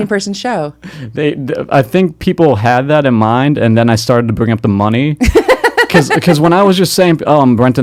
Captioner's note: interviewer Laughs